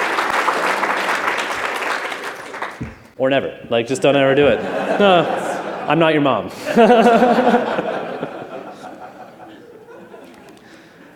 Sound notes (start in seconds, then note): 0.0 applause; 6.5 laughter